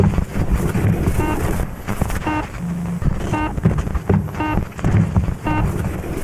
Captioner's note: static hissing